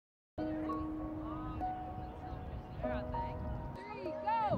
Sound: crowd chattering; soft music

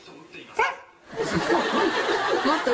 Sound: softer bark

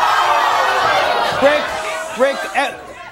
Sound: audience groaning

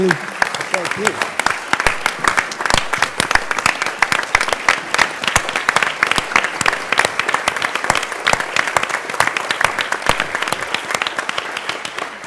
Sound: applause

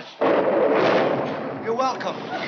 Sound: thunder

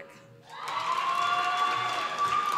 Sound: applause

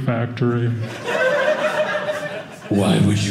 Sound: audience laughing

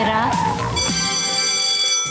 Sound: bell ringing

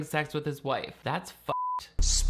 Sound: beep

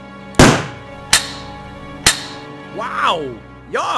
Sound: gun shot; guns click empty

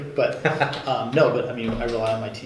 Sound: laughing

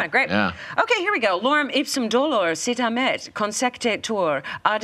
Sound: reads in Latin

